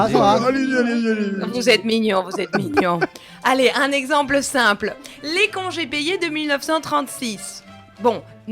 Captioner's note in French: rires